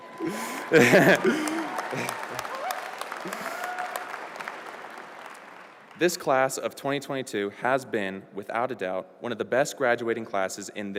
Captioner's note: applause